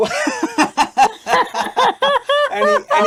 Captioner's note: laugh cheerfully